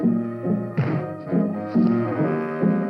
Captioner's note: thump